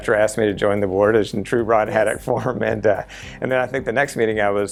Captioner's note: chuckle